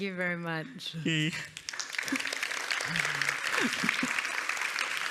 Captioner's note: applause